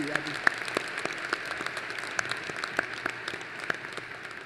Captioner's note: applause